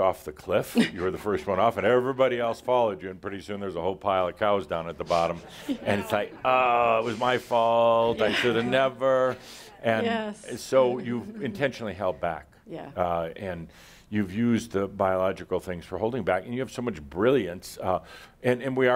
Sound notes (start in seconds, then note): 0.7 she chuckles; 5.0 some laughter